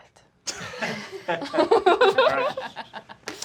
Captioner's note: laughing